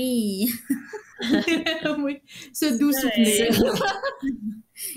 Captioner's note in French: rires; Ton sarcastique; rires